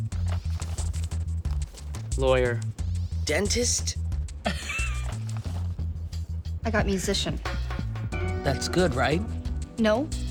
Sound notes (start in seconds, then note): 4.4 laughing